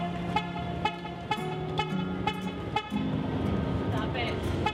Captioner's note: horn honking